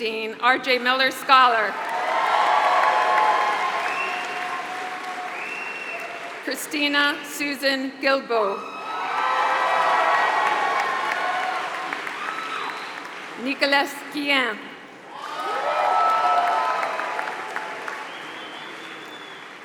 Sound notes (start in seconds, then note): 0.0 applause; 1.5 applause; 8.8 applause